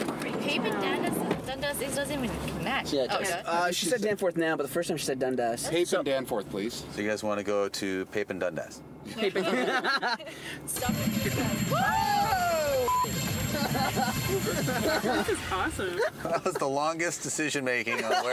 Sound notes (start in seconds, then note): 9.1 laughing; 10.8 bells ringing